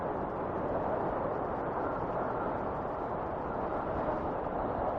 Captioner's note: wind whistling continues